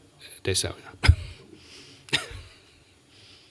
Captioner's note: chuckles